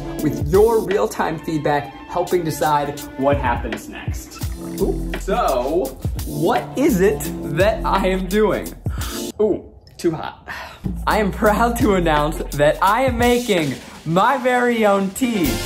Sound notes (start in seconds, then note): 8.9 slurping